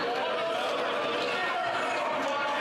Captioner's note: some Applause